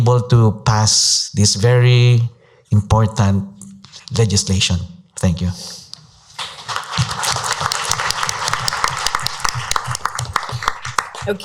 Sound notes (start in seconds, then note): 6.3 applause